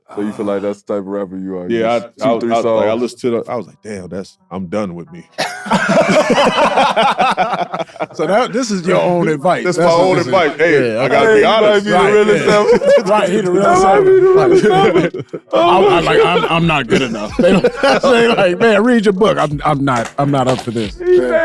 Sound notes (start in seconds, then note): 5.4 group laughing; 11.7 group chattering and laughing